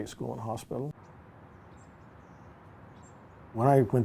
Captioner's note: birds chirping